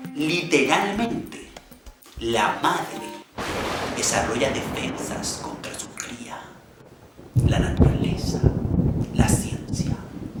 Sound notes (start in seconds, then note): 3.3 thunder; 8.0 storm